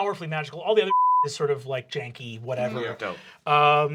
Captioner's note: beep